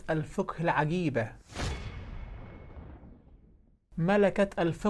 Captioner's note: sound effects